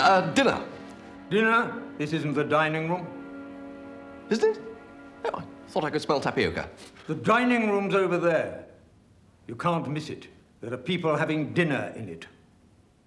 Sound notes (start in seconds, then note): none